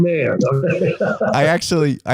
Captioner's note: laughing